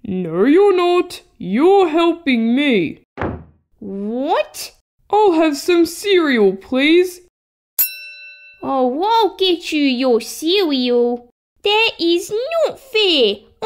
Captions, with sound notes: No you're not You're helping me (Slam!) What?! I'll have some cereal please (Ding!) Oh, I'll get you your cereal That's not fair